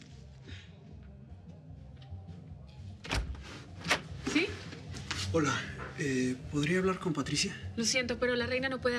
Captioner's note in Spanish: ruido en abrir